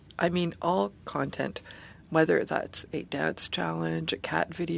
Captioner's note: speaking French